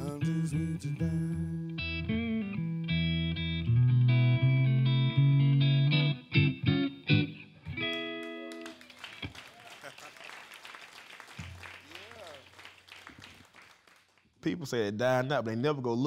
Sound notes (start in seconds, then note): 6.3 song ends; 7.8 applause